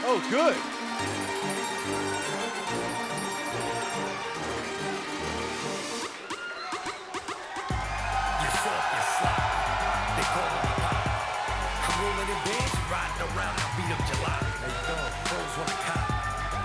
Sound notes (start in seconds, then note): 2.3 crowd cheering